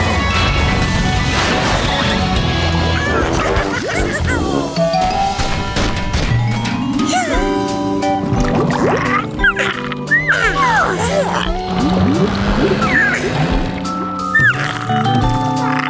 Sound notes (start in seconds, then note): 0.1 sliding; 5.0 thumping; 8.0 bubbling; 9.3 yawning